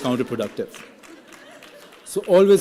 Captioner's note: laughing